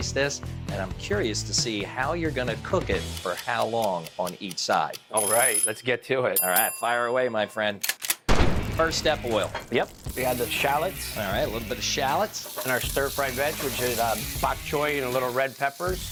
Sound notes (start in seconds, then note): 2.9 timer ticking; 4.8 timer chiming; 6.4 dinging; 8.2 gun firing